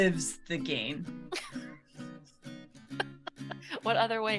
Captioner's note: laughs